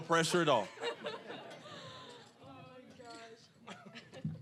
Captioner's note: audience laughing